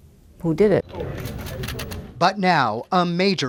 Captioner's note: camera shutters clicking